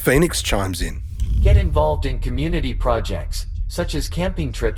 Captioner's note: ai voice